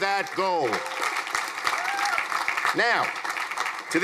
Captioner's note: crowd applauding